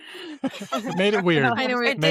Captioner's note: laughs